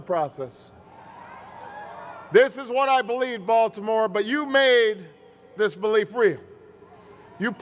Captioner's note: cheers